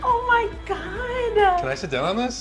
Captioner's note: laughs